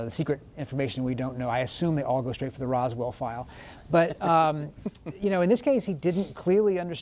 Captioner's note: laughter